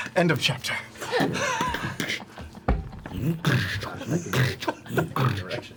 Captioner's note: sounds of book slamming shut and walking